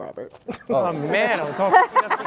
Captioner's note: laugh